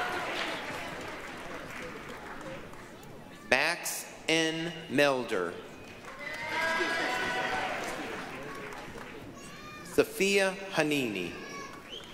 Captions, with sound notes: (applause, cheering) Max N. Melder. (applause, cheering) Safa Hnini.